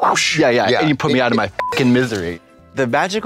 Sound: beep

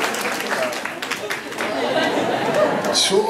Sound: applause; laughter

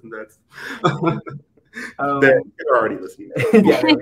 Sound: all laughing; all laughing

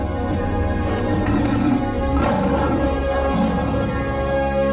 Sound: lion roaring

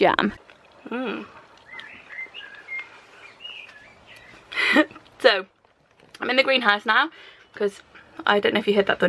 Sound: chewing mmm

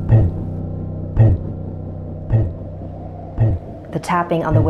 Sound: thumping sound

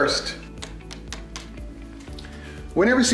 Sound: tapping sound

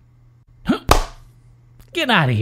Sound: smack

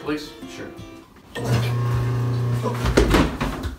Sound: startlingly loud garbage disposal

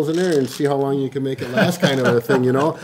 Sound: laughs

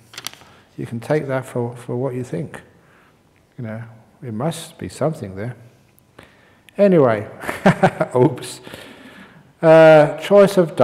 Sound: chuckles

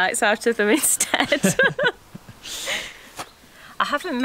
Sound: both laugh

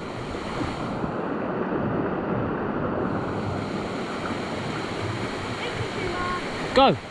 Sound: running water

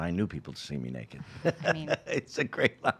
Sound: laughing

